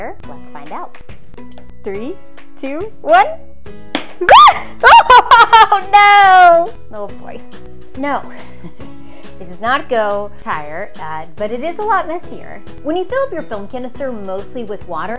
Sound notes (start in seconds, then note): 3.9 canister pops; 4.2 screams